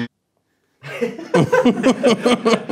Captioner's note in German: Lachen